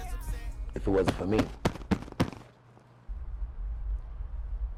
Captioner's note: beats chest